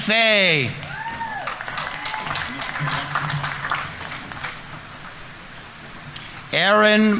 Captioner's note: audience members cheering; audience applauding